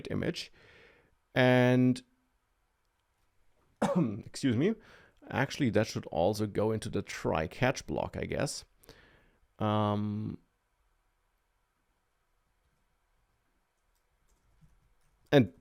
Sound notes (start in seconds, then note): 3.8 coughs